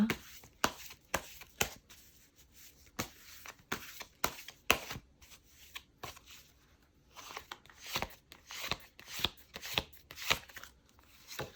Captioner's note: drawing cards